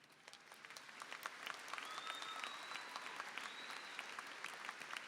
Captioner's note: applause and cheering